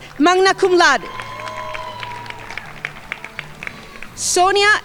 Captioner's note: crowd applauding